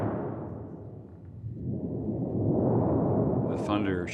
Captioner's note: shuddering